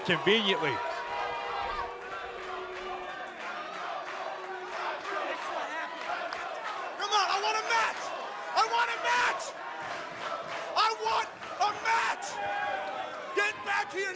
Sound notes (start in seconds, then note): 3.2 crowd chatter